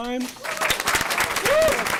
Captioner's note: applause